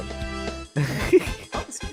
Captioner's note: giggles